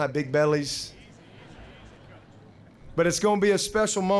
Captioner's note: laughter